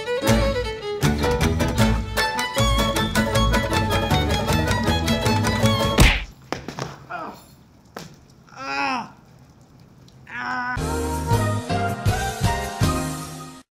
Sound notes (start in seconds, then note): 5.9 punch sound effect; 8.5 pained noises